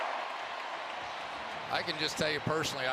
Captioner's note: cheering